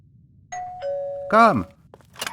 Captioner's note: doorbell